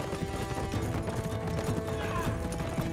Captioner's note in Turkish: At nalı sesleri